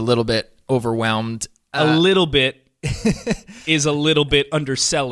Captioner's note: laughter